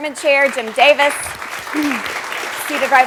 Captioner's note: applause